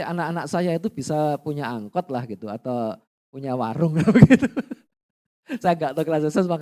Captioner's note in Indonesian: tertawa